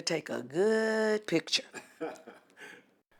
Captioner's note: laughs